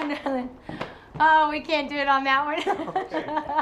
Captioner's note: laughs